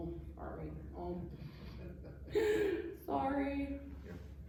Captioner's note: laughter